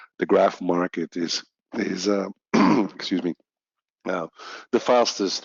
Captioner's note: clears throat